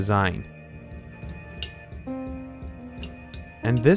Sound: water dripping

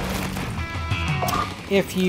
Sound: plock

